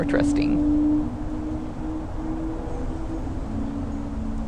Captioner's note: Traffic